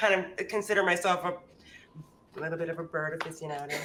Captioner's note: speaks faintly